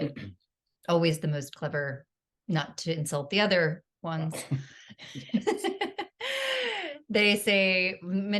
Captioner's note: laughter